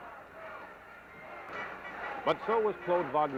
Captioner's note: crowd noise